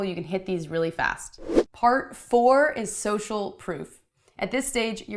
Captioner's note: whooshing